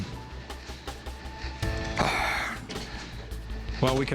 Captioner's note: sighs